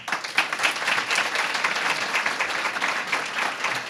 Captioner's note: applause